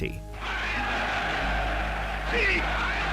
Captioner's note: Nazi crowd cheering